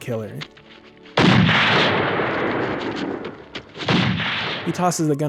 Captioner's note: gunshots